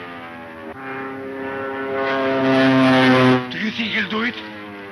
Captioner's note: airplane engine roaring